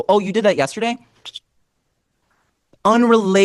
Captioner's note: click noise, pause